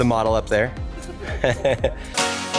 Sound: they laugh; exciting music

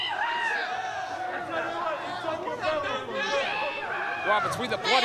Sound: cheering

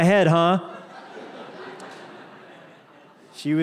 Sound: laughter

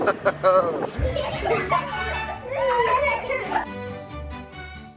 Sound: laughter

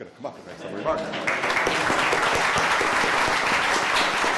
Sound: applauds

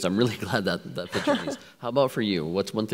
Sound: laughs

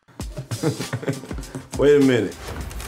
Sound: Karlous chuckles

